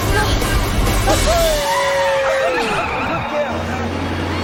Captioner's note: Alice laughing